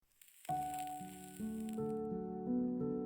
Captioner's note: sizzling